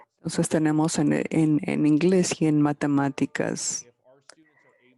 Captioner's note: speaking in foreign language